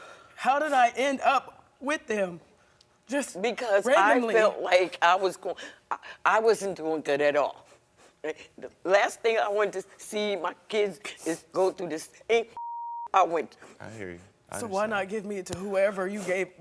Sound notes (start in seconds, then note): 12.6 beeping